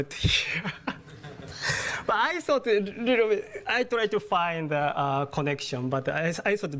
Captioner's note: laugh